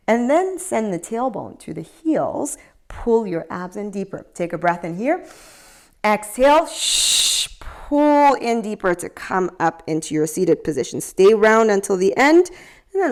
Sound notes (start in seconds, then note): 6.6 exhales; 6.7 inhales